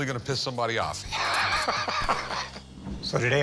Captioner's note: laughs